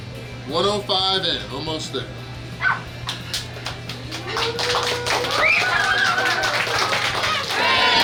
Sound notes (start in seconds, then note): 3.6 cheering & Clapping